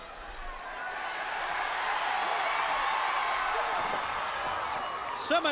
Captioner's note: crowd cheering